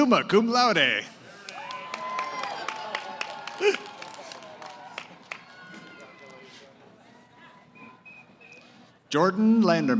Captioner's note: cheering